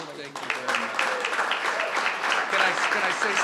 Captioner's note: crowd clapping